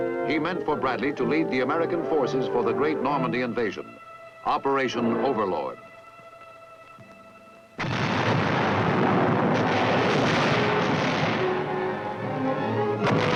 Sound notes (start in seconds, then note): 7.7 dramatic music; 7.8 bombs exploding